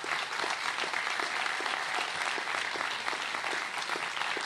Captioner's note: applause